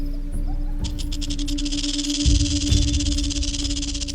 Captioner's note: rattling